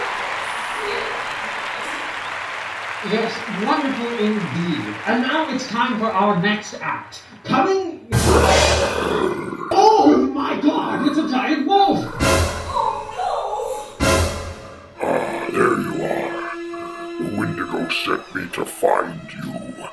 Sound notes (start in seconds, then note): 8.2 roaring; 15.4 distorted